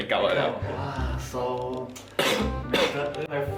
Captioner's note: cough cough